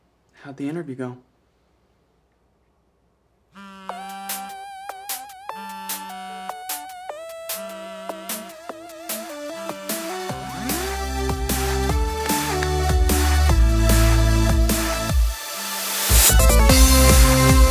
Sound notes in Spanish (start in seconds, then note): 5.0 celular vibra; 5.0 tono del cierre comienza a sonar